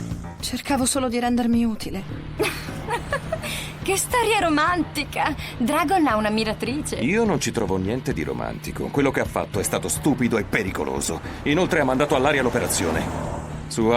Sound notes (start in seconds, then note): 2.4 chuckles